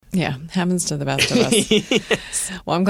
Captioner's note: laughter